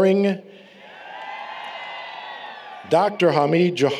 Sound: applause, Cheering

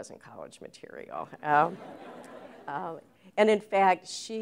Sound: laughter

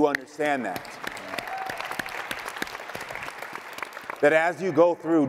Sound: audience clapping

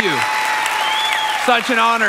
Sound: congregation applauding

